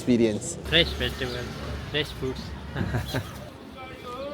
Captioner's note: laugh